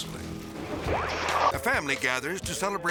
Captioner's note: slides swooshing